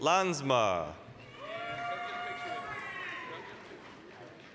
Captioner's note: applause, cheering